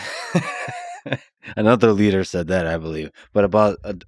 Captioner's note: laughs